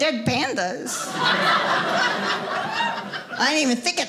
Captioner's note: audience laughing